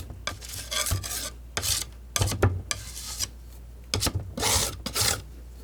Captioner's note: scratching